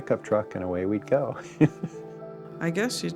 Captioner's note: chuckles